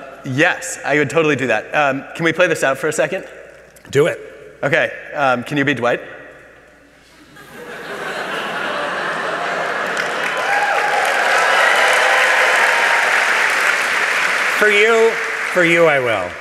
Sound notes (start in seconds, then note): 7.1 laughter; 9.4 applause